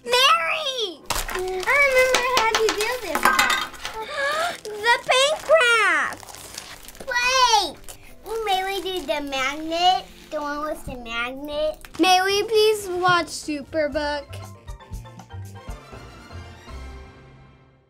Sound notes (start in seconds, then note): 3.9 gasping; 15.1 bright music